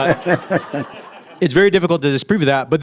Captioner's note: audience laughs